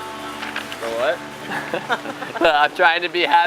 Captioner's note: laughs